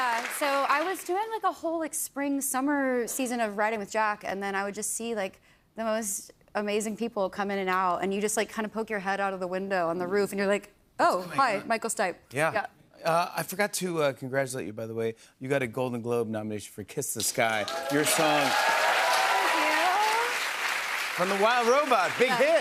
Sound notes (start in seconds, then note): 17.3 cheers and applause